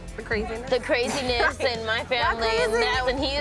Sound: laughs

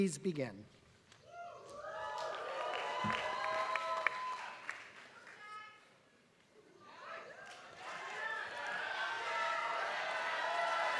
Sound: applause

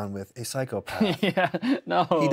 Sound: laughs

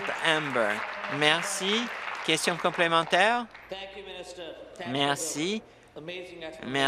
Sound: applause

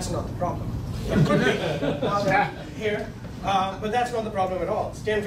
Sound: laughing

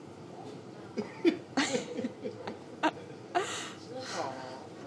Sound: laughing

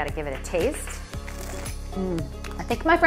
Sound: crunching

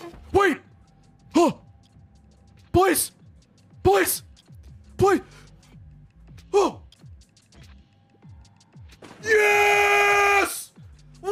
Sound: gasps

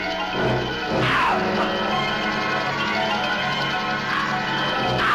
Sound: screaming

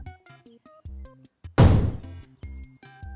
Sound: cannon fires

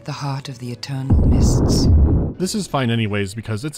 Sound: baboom

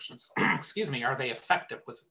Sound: clears throat

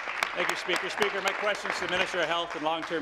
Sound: applause

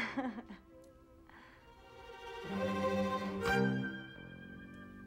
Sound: laughs

